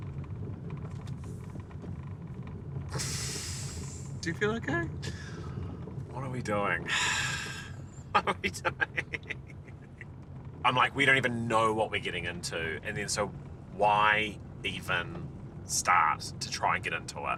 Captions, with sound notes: (sighing) - Do you feel okay? - What are we doing? (laughing) What are we doing? I'm like, we don't even know what we're getting into. And then, so why even start to try and get into it?